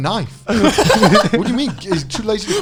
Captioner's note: laughing